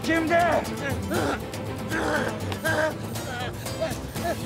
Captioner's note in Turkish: Bağırma sesi